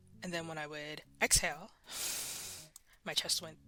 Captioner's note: deep Exhale